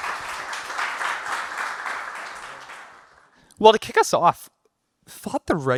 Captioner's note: clapping